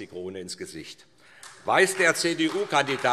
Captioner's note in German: Beifall SPD